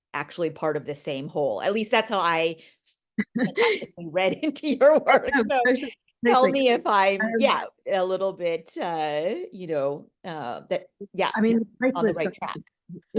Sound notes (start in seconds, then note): 3.2 chuckling; 3.2 laughing